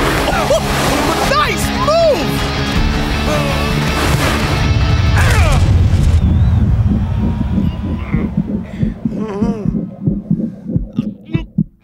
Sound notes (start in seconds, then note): 5.3 grunting